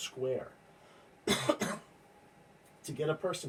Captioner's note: coughs